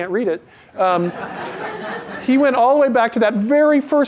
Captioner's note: laughter